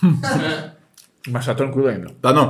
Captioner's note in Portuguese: risos